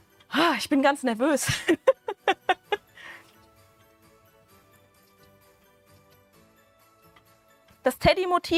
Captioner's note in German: Gelächter